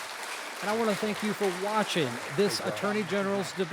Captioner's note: applause